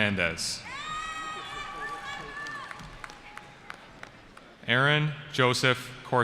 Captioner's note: cheering